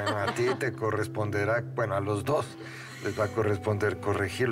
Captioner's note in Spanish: risas